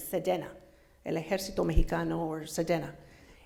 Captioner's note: foreign language